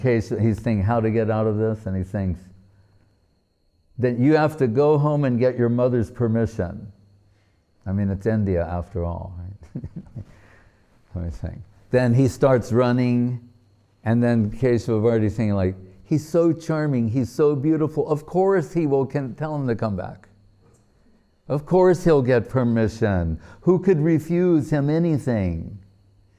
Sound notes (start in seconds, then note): 9.6 chuckling